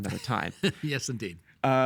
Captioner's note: chuckling